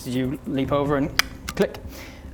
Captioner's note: click!